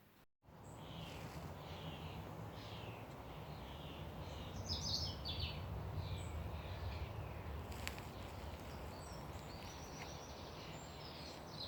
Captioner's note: birds singing